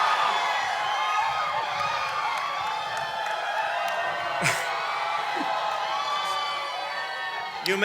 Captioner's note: cheering and Applause